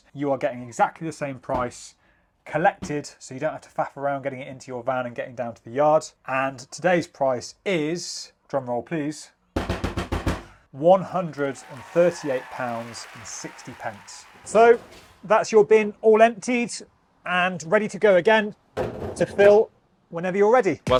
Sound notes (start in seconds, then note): 9.6 hand thumping; 11.0 audience cheering